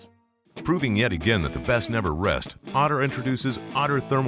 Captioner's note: voiceover